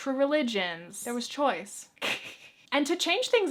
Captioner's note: chuckles